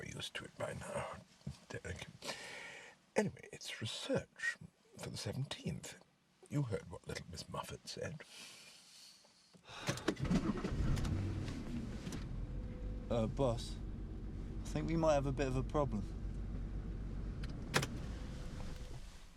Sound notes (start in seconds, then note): 10.2 Derek sighs; 11.1 engine rumbling